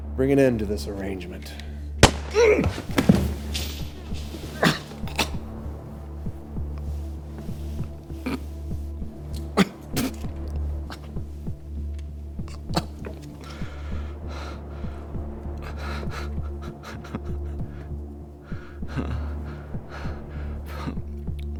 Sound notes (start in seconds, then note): 2.3 Weston groaning; 5.7 tense music; 17.2 Weston laughing lightly; 21.4 tense music